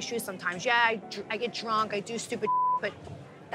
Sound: beep

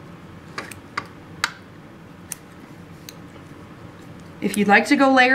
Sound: clipping sounds

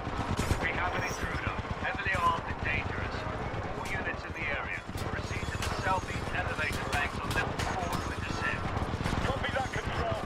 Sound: radio

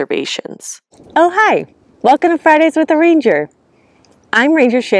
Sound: wind rustling through trees and grasses

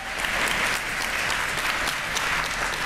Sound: applause

